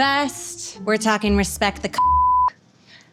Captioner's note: beeps